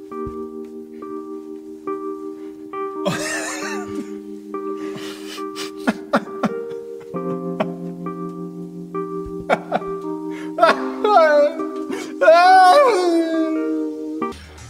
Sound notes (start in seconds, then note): 4.9 cries again